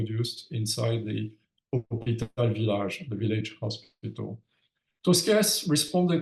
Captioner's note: speaks in French